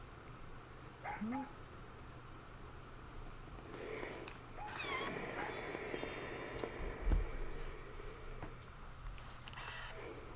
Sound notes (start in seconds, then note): 1.0 Super Piggy barks; 4.8 steam iron hissing